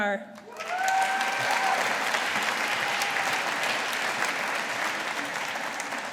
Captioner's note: audience applauding